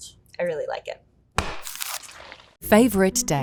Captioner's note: tub thudding